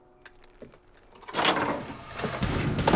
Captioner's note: clattering